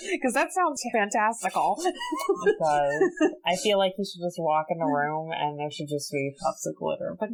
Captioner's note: laughs